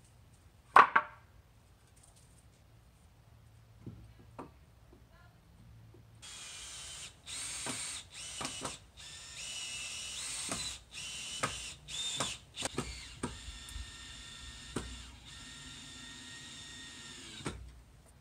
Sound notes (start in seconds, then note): 0.7 wood clattering; 6.2 drill